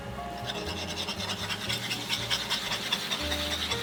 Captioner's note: whisking